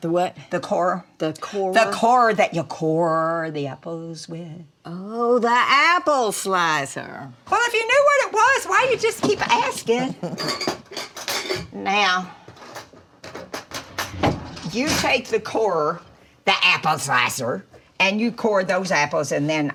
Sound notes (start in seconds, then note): 10.0 Dory chuckles; 10.2 utensils clattering